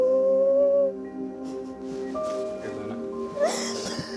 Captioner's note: crying